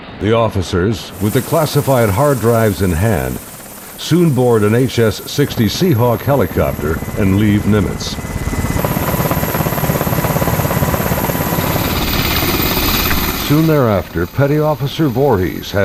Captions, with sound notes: - The officers, with the classified hard drives in hand, soon board an SH-60 Seahawk Helicopter and leave Nimitz. (helicopter propellers spinning) Soon thereafter, Petty Officer Voorhis